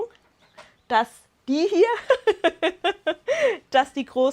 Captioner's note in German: Lachen